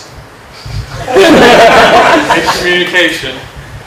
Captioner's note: laughter